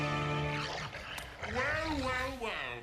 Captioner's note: growls